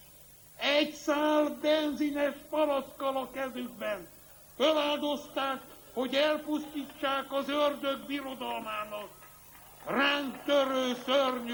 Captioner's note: applause